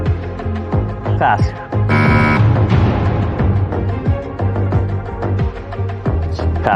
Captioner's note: buzzer sounds